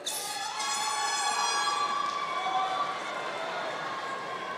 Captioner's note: audience cheering